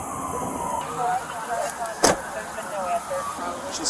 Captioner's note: radio chatter